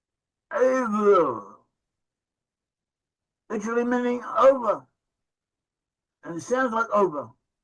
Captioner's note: in Hebrew